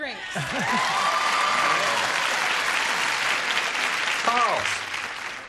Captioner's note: applause